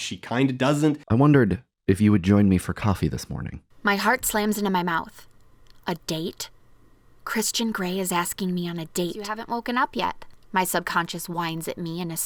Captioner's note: reading aloud from the novel